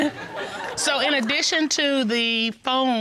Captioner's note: chuckles